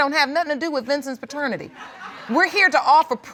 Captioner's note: audience chuckle